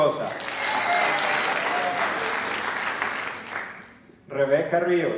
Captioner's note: applause